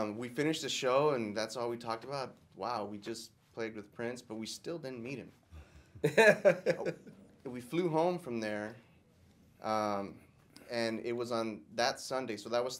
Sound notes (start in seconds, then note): 6.0 laughter